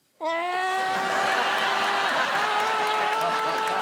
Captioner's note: muffled screaming